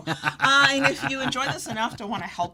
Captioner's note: laughs